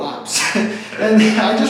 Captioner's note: laughs